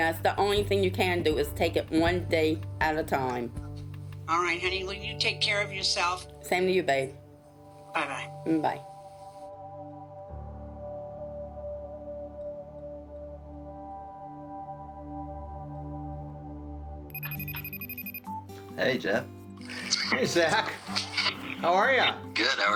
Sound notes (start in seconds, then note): 17.1 computer beeps